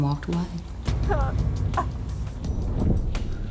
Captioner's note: sobbing